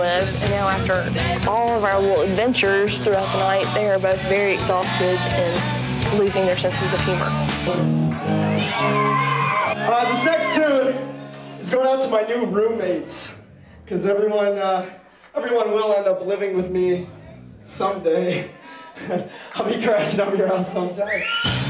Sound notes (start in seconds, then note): 7.7 audience cheering; 8.1 upbeat rock music